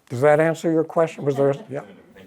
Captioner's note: laughter